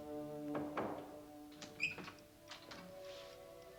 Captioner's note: door clicking; light orchestral music